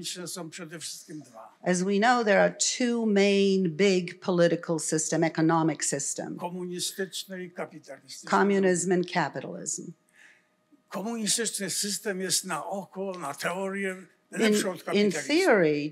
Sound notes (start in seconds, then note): 6.4 foreign language; 10.9 foreign language